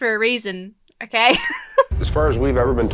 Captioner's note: laughs